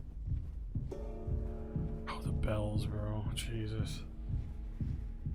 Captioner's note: bell tolls